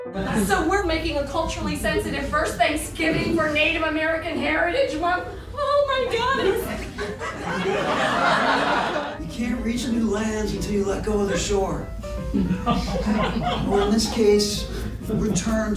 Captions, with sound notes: (playful jazz piano music) >>So we're making a culturally sensitive first Thanksgiving for Native American Heritage Month? Oh my God, it's... (audience laughs) >>You can't reach a new land until you let go of the shore.